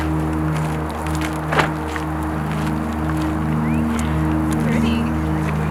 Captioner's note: cars driving in the distance; doors closing